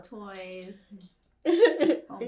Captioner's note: laughing